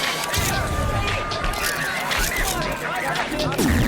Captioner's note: police radio dispatch